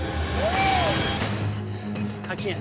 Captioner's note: exclaims